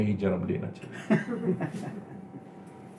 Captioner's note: laughing